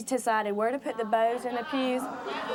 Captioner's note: audience jeering